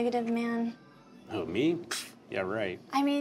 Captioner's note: scoffs